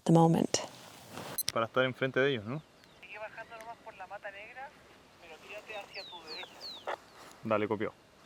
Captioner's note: tracker speaking spanish on the radio